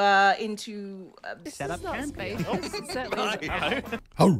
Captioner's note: romantic music plays; laughs